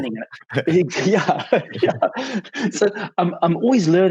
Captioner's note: laughs